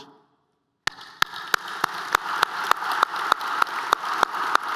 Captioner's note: applause